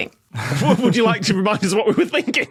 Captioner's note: laugh